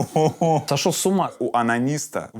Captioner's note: Dud laughs